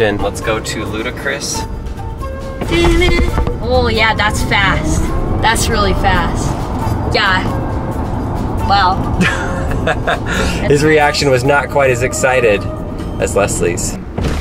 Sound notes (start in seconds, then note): 9.1 man laughing